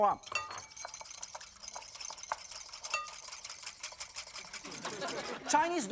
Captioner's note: whisking noise; audience laughing